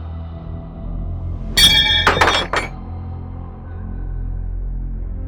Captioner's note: metal clanks